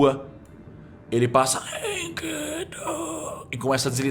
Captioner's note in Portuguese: Grunhido